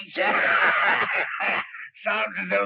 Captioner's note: both cackling